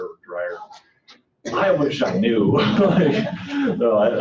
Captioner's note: laughing